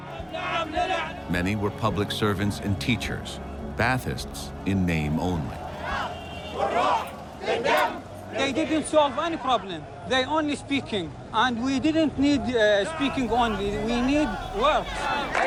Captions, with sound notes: Many were public servants and teachers, Ba'athists in name only. (crowd chanting) They didn't solve any problem. They only speaking and we didn't need speaking only, we need works.